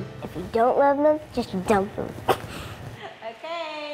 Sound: laughs

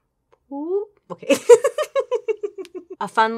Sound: laughs

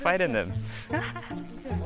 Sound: chuckles

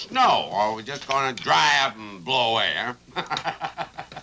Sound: laughs

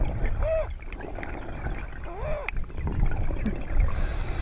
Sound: water burbling; wheezing; water burbling; inhales deeply

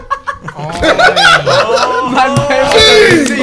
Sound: everyone laughing

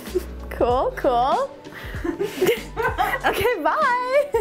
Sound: laughs

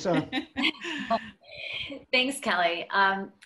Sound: laughing

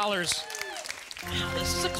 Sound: audience applause

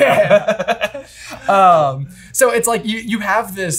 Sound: laughing

